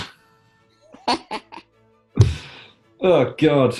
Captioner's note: laughing